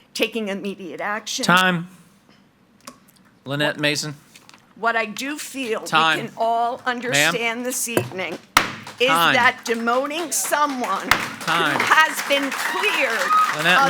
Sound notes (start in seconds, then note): 11.1 gavel bangs